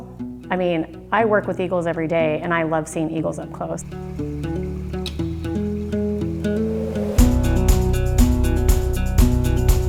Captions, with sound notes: I mean, I work with eagles every day and I love seeing eagles up close. (water running)